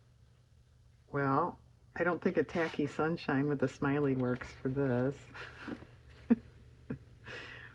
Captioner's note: laughs